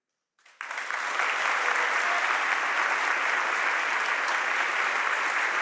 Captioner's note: audience applauds and cheers